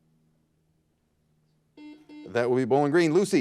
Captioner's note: buzzer buzzes